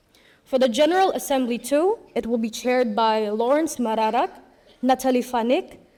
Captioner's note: none